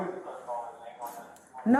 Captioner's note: radio chatter